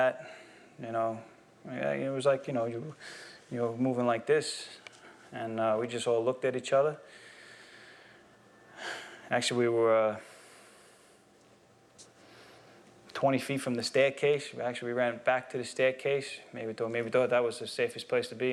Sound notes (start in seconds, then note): 8.8 sighs